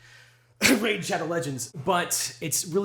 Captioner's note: coughs